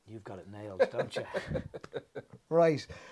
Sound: both laugh

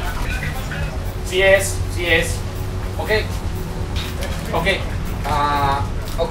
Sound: speaks foreign language

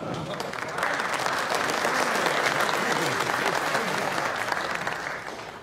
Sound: audience applauding

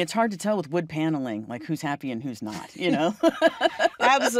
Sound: laughs

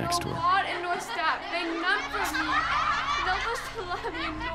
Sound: children laughing

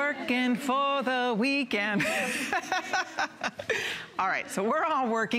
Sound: laughter

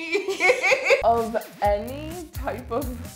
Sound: laughing

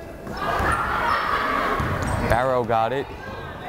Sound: crowd chattering

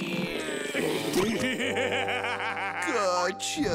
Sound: laughing

